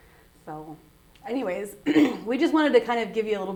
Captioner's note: clears throat